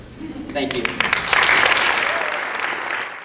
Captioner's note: applause